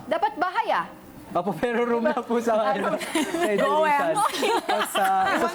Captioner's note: jokingly speaking